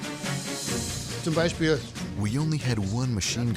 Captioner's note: speaking german